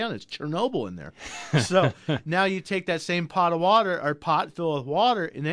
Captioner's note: laughs